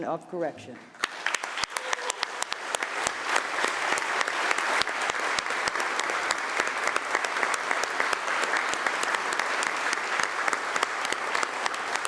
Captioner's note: applause